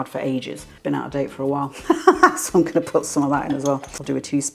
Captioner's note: laugh